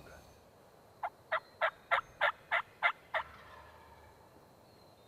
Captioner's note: turkey calls